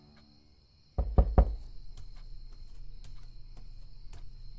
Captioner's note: knocking